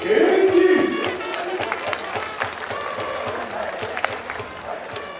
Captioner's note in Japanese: 拍手･応援